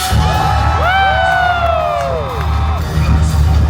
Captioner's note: guests cheer and clap; robust music